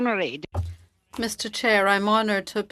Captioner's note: speaking FRENCH